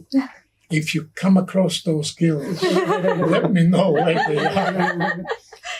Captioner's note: all laughing